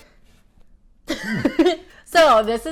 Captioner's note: laughs